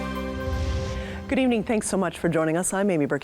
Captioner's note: wind whooshing